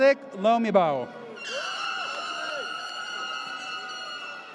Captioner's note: air horn blares